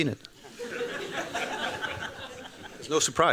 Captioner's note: laughter